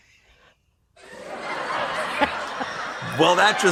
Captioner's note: laughter